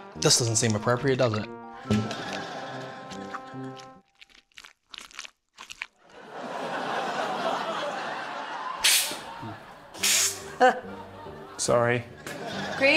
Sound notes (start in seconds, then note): 2.8 squelching; 6.1 laughter; 10.0 air hisses